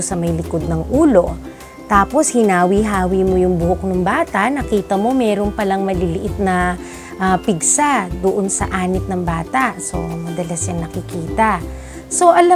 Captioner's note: boils